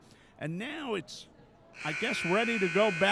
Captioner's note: buzzer sounding